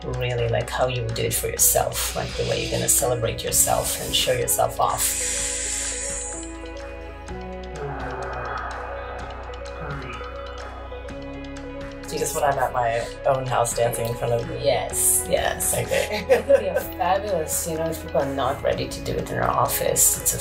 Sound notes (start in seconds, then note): 5.0 deep inhale; 7.2 moaning